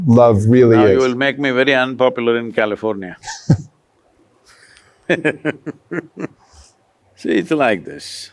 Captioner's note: laughter